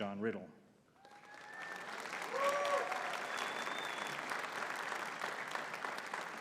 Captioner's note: audience cheering and clapping